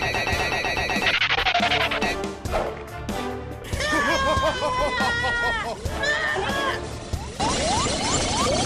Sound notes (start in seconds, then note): 3.8 screams in pain; 6.4 laughs manically